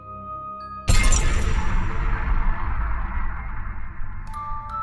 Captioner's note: sound FX